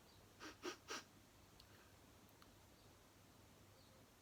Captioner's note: sniffing